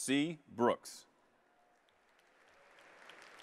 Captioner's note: applause